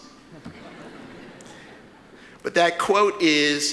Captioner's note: audience laughs